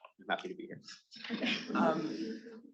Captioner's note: attendees laughing